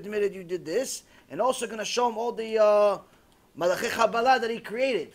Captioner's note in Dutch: hebreeuws